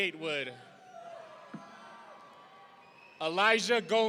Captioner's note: audience cheering